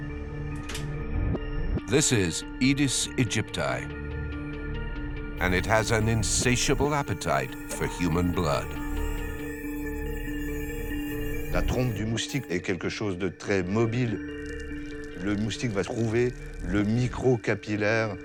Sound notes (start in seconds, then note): 8.4 mosquito buzzing; 11.8 speaks in foreign language